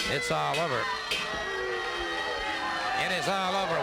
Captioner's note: crowd booing